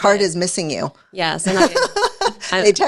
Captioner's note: laughs